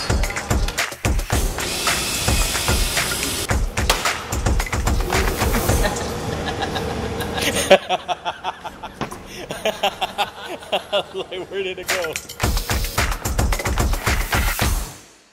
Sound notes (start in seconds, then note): 1.1 tool buzzing; 3.1 upbeat music continues; 5.1 laughing; 7.2 camera Person laughing; 12.2 upbeat music